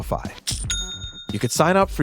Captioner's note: cash register dinging